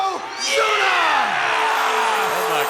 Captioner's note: audience cheers; peaceful music